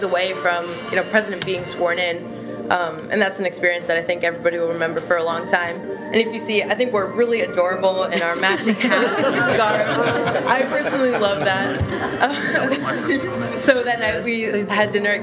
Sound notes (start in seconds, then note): 13.0 laughter